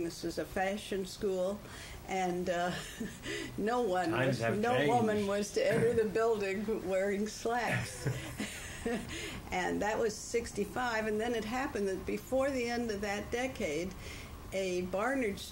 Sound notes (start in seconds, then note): 2.7 laughs; 7.6 laughter